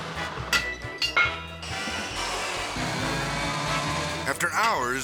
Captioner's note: whimsical music; saw buzzing